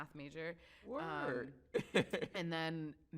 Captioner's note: chuckles